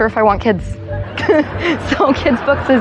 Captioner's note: laughter